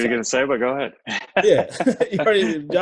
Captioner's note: laughs